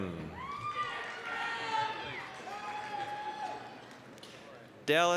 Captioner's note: applause, cheering